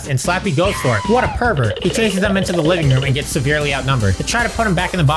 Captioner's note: skidaddle noises